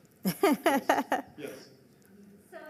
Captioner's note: laughing